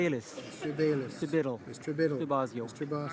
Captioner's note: speaking in french